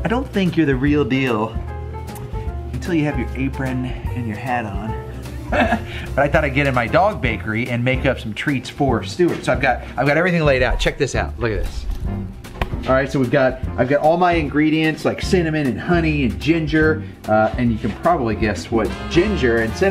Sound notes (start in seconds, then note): 5.5 laughs